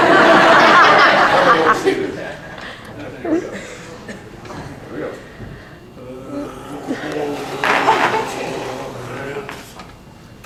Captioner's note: gargles the liquid nitrogen and makes gargling sounds; lots and lots of laughter from the audience